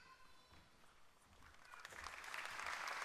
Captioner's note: applause